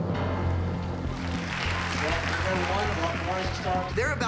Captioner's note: applause and cheering